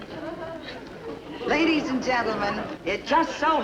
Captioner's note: audience laughs